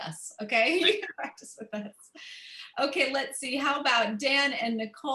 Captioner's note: laughter